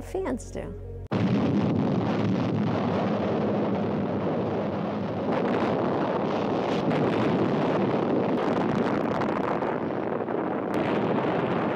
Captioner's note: bombs exploding then fade to background